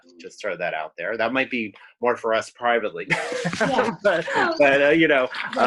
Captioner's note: laughs